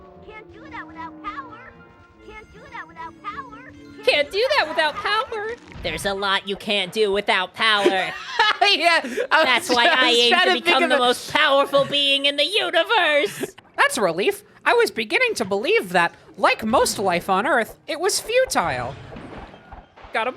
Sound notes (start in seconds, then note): 5.3 Spongebob voice; 7.8 laughing; 11.0 Spongebob voice